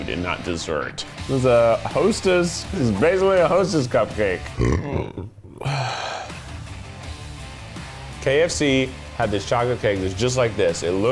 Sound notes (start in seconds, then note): 4.4 belches; 4.5 sighs